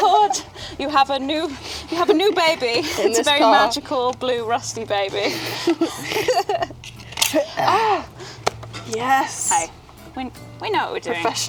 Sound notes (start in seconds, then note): 4.8 girls laughing